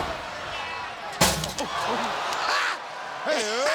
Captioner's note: chair smashing; metal can clanging; group laughing